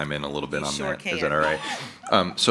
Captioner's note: laughing